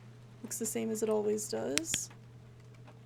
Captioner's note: flashlight Clicks Off